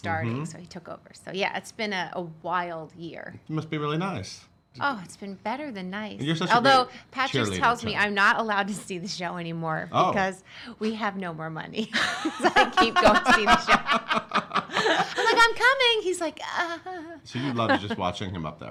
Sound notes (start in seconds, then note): 12.0 laughing